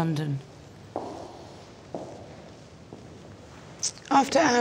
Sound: heels clack

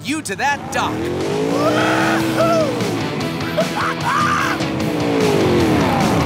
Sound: laughing

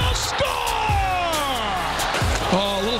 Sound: audience cheers

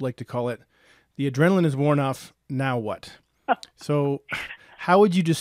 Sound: laughing

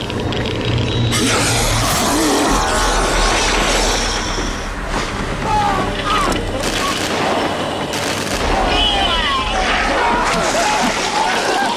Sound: screams

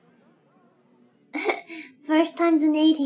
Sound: laugh sus

